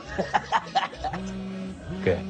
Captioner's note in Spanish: Suena celular